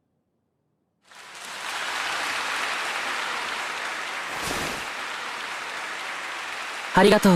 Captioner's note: Rei bows to thundering applause